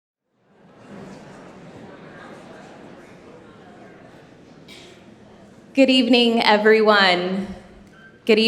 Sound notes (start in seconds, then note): 3.2 people chattering indistinctly